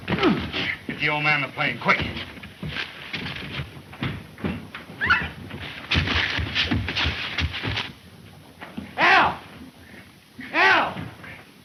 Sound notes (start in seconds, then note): 5.0 Mary screams